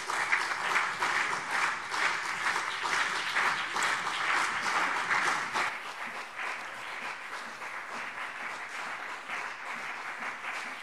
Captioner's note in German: Beifall BÜNDNIS 90/DIE GRÜNEN und CDU